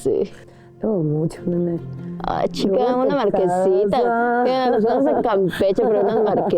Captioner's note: with a Yucatan accent